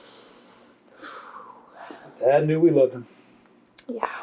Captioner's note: sighs